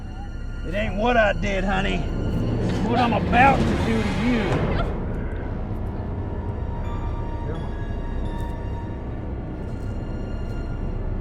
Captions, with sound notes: - It ain't what I did, honey. It what I'm about to do to you. (Margaret grunts) (slow haunting music)